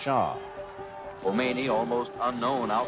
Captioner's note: soundbite of archived recording